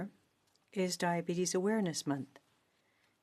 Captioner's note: speaking in French